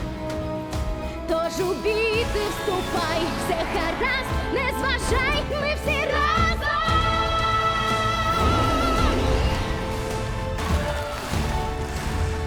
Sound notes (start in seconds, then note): 8.0 roars; 10.5 creature shrieks